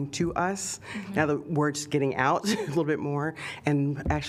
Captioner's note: laughter